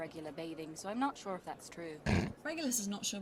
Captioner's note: Regulus snorts